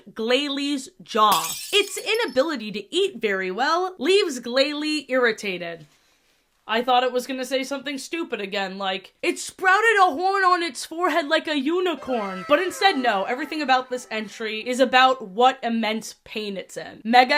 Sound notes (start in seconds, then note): 1.3 glass shattering sfx; 11.9 anime "wow" sfx